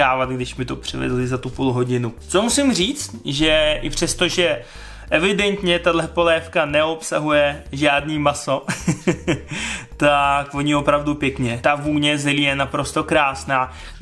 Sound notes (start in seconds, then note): 8.6 laughter